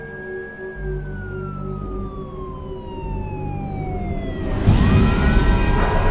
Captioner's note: sirens